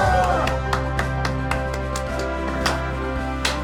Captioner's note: cheering and applause